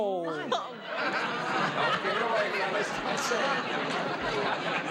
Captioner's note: audience laughing